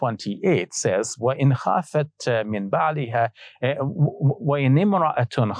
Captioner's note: speaking Arabic